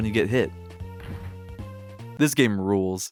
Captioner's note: thud